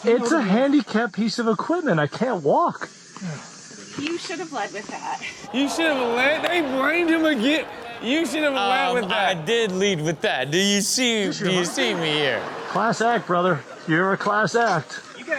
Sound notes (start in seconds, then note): 5.2 audience gasps